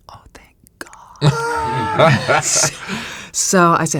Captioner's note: laugh